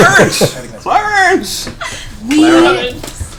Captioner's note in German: Gelächter; Jimmy-Stewart-Stimme